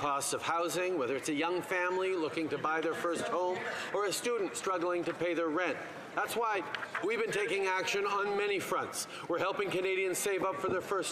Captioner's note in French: voix de l'interprète